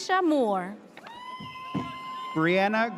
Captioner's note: audience cheers